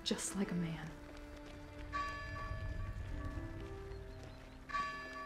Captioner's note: melancholic music continues; bell tolling